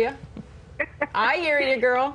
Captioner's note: laughs